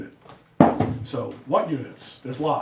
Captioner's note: door thudding